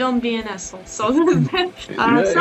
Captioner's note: Смех